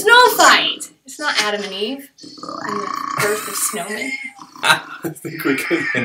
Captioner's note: laughter